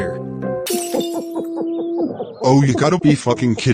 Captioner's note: glass breaks, babies weeping